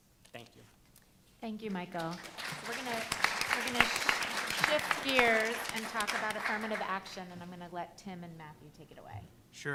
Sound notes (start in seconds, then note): 1.9 applause